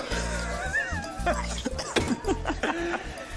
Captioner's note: coughs